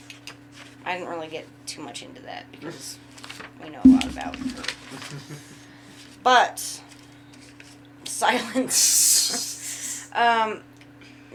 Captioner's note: chuckles